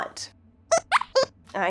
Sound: squeaks squeaks

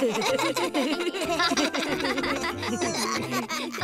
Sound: all laughing; both chuckle

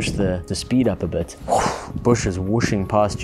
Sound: whoosh

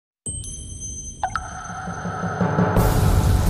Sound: pinging; energizing music

